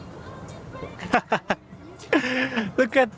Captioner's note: laughs